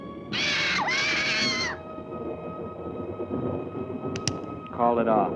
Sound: bird shrieking

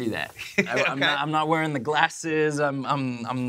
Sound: laughs

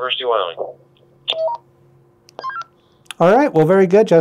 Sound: radio beeping

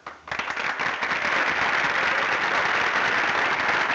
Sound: audience applauding

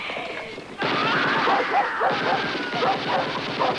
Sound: machine gun fire

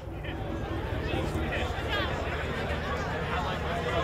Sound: people chatting

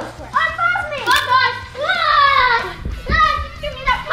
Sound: yells

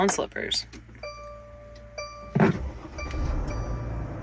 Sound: van beeping; engine whirring

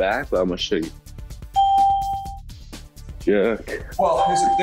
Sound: ding

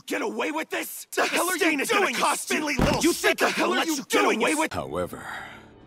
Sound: angry man noises

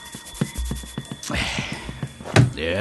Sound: Cris sighs

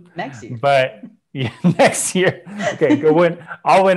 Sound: laughs

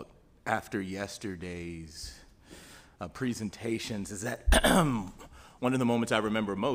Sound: clears throat

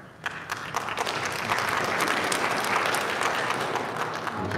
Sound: audience applauding

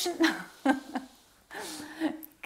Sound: she laughs

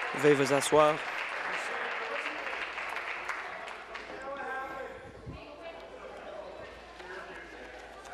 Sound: applause

